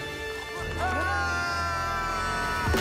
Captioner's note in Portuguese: ambos gritando